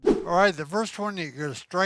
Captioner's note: air whooshes